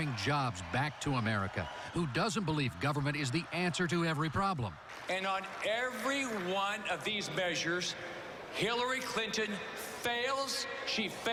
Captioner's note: cheering and applause